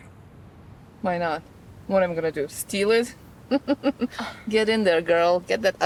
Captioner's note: laughs